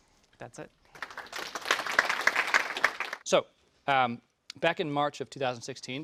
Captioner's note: applause